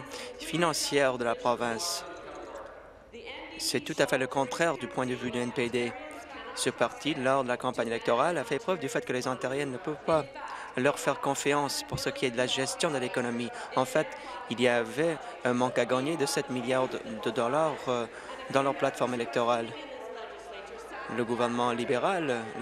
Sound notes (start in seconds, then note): none